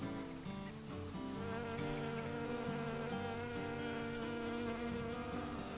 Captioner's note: bee buzzing loudly